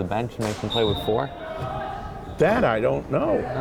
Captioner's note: whistle blowing